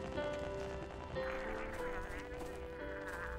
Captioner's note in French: gargarismes